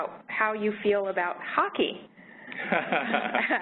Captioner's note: laughter